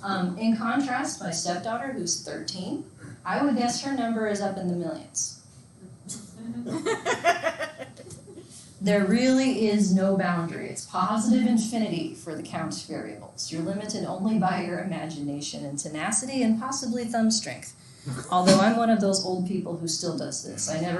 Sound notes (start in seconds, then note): 6.7 students laughing